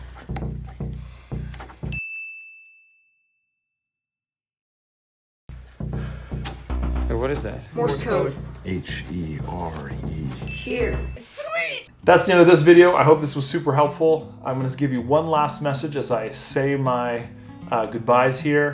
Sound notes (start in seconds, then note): 0.0 suspenseful music; 1.8 dinging